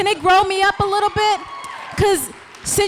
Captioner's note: audience applauds